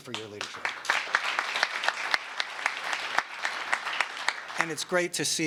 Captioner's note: applause